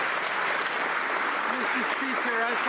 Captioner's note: some Applause